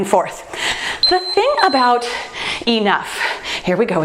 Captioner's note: timer beeps